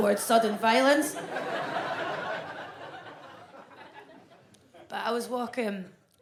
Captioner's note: audience laughs